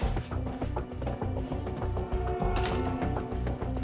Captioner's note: footsteps, keys jingling